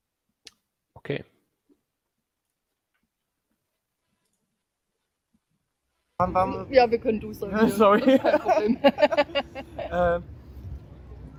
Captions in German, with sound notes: Okay. Ja, wir können Du sagen. – Sorry! – [Lachen]